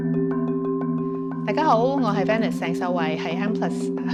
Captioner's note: Cantonese